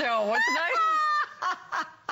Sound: laughter

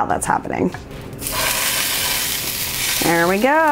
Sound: sizzle

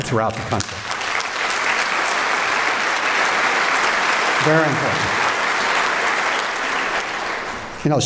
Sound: applause

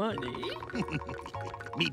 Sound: Mr. Krabs giggling

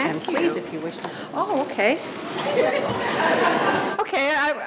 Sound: audience laughing

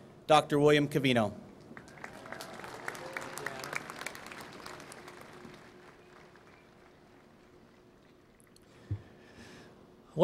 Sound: applause

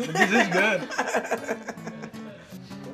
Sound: laughter

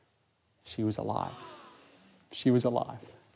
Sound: audience gasps

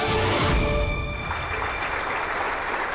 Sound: applauding

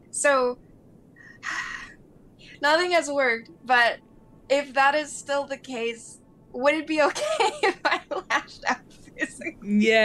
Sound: sighs

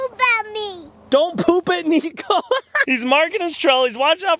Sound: laughing

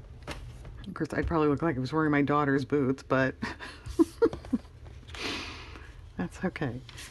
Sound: laughs

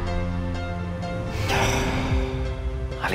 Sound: emotional music plays; sighs

